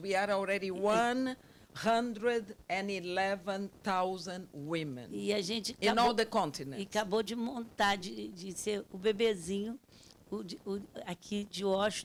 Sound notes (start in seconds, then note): 7.1 speaking Portuguese